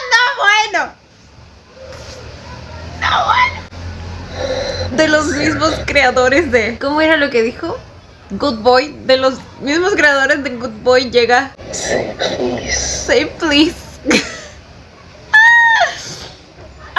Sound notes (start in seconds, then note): 3.0 pterodactyl noises